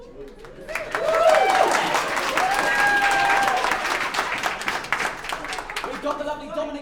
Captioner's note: applause